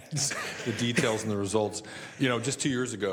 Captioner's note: laughter